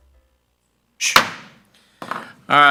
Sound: gavel

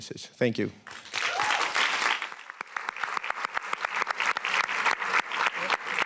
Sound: applause

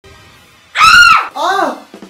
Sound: screams; screams back!

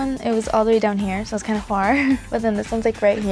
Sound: laughs

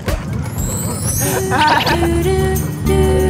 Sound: giggles giggles

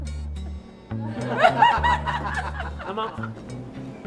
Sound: laughing

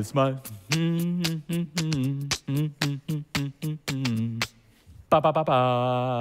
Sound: hummed

